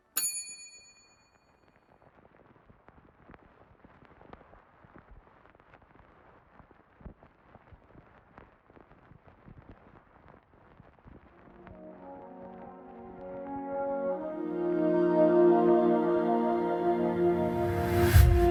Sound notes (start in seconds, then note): 0.0 bell dinging; 4.8 record player static fuzzing; 11.4 light calming music